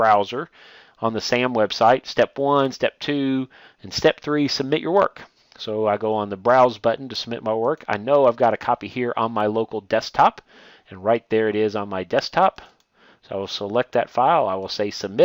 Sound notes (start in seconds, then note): 12.5 click